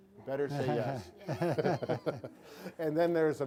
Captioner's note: chuckling